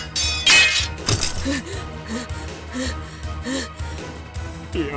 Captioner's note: huff; pant